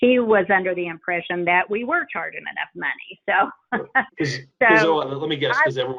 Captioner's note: laughs